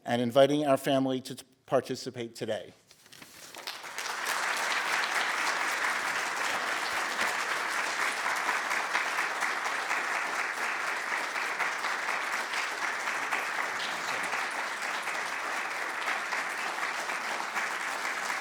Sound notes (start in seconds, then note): 4.2 applause